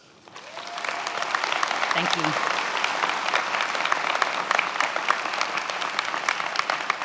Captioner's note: many applauding